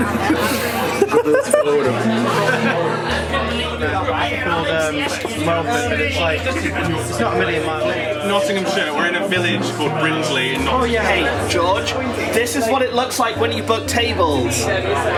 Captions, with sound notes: (people laughing) (people chattering) - Hey George, this is what it looks like when you book tables.